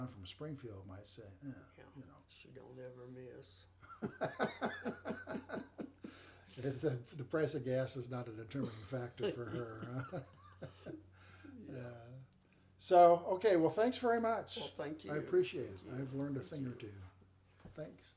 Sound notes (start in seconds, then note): 3.8 laughing